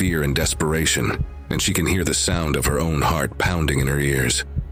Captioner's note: heart beat